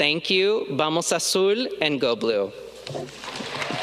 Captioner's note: speaking in foreign language